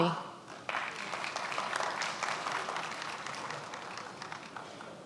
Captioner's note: many applauding